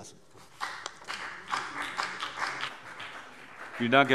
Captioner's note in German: Beifall BÜNDNIS 90/DIE GRÜNEN